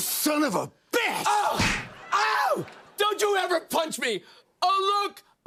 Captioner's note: smack